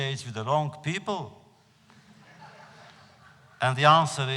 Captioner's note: laughter